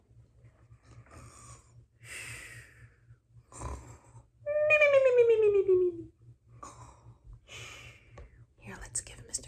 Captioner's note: sleeping and snoring noises